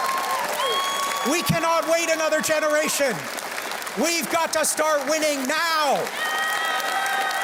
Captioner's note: cheers and Applause